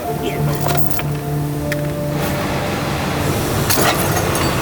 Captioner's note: chains rattling